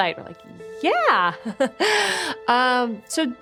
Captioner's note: laugh